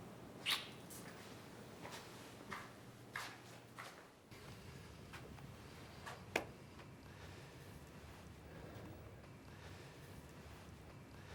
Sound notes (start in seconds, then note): 0.4 gently smooching; 2.1 footsteps departing